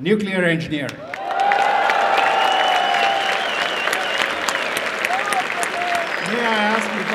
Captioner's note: applause and cheering